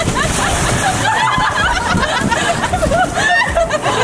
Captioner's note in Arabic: الناس يضحكون